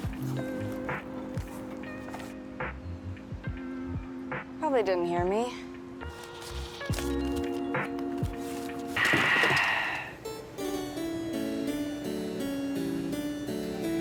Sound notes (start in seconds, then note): 6.0 papers rustle; 6.6 peaceful music; 10.3 cheerful classical music